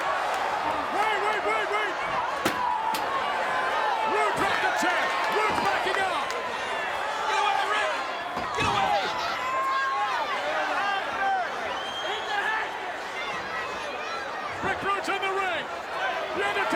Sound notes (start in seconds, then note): 2.8 chair clatters